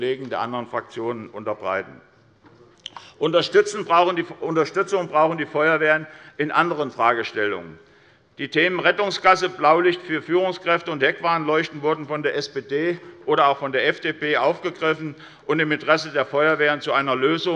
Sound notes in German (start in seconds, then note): none